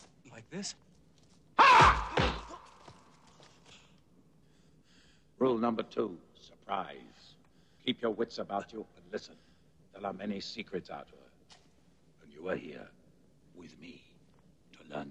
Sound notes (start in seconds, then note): 1.7 hitting; 1.7 yelling